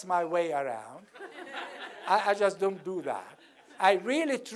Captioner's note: laugh